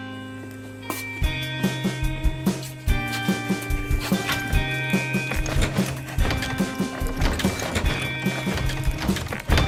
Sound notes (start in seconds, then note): 6.2 door rattling